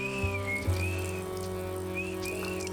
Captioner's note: whistling